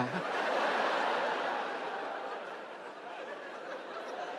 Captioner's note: audience laughing